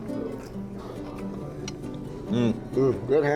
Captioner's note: crunching